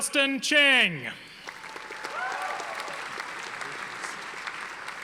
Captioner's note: audience applauding